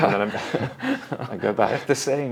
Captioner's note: both laughing